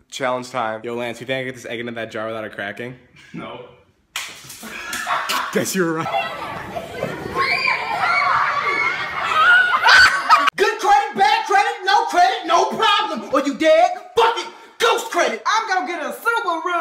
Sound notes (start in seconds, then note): 3.2 scoff; 4.5 laughing; 6.1 children playing and screaming; 9.8 scream of surprise